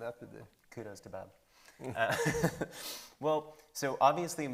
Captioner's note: laughs